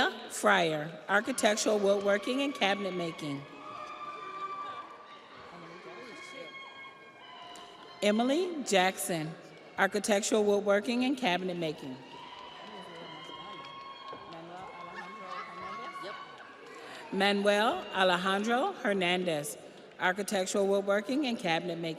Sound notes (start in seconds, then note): 6.9 audience applauds; 6.9 audience cheers; 16.6 audience applauds; 16.6 audience cheers